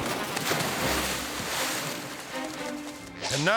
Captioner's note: water splashing